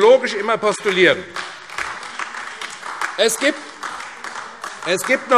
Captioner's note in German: Beifall AfD